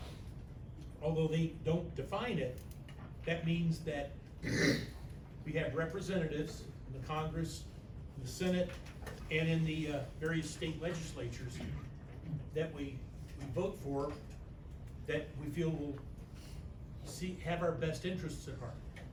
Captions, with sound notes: although they don't define it, that means that-- [clears throat] we have Representatives in the Congress, in the Senate, and in the various state legislatures that we vote for that we feel will have our best interests at heart.